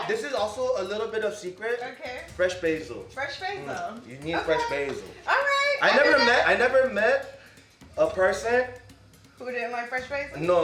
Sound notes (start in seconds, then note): 6.1 murmurs